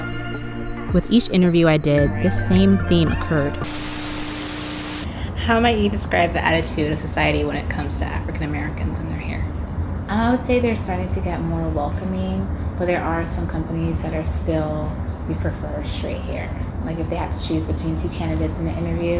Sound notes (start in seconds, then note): 3.6 television static noise